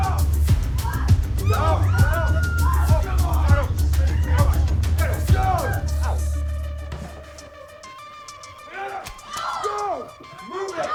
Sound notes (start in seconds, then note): 1.0 dramatic music; 1.3 all screaming; 6.5 dramatic music